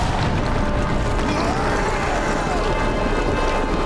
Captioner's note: screaming